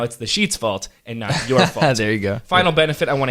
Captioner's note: chuckles